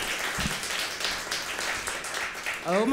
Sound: applause

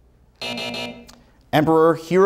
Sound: buzzer sounds

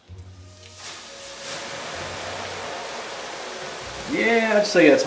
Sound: oil sizzling

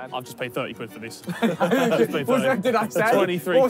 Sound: all laughing

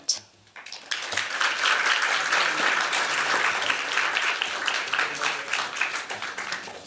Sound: applause

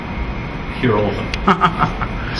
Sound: laughs

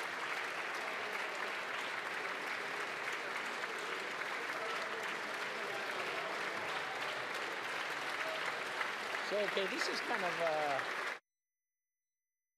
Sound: applause

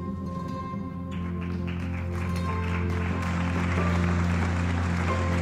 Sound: applause

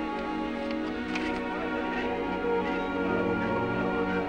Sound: chatter outside

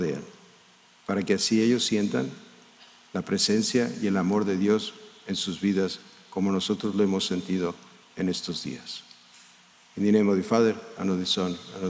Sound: speaking in spanish

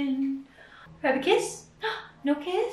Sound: gasping

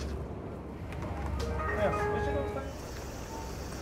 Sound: machine chimes

